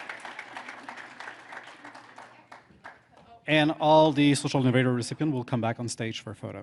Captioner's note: applause